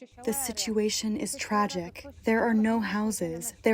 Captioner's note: through translator